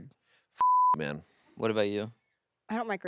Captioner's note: beep